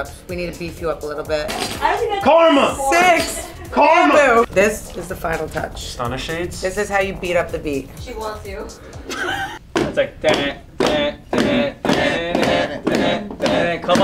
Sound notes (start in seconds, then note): 8.9 laughs; 9.9 pounding; 11.8 all chanting rhythmically